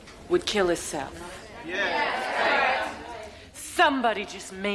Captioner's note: inmates murmuring